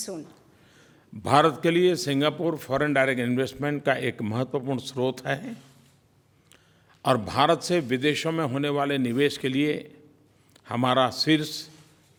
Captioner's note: PM Modi speaks in Hindi